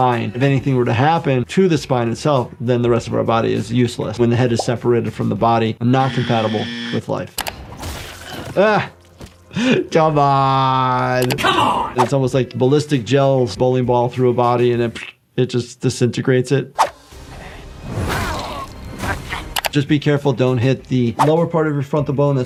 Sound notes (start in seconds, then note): 6.0 buzzer buzzing; 7.3 screen clicking; 7.7 body splatting; 16.8 screen whooshing; 16.8 dramatic music; 17.9 characters grunting